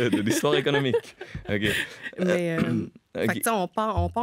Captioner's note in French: rire